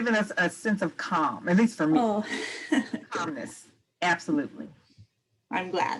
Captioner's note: laughter